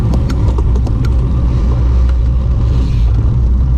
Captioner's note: changing gear